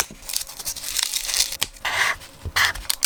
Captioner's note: scissors snip; marker draws; tape tears